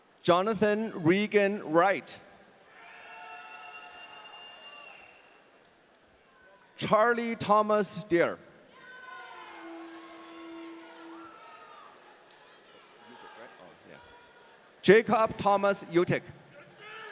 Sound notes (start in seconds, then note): 2.9 audience cheering; 9.2 audience cheering